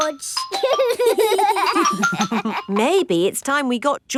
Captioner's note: giggling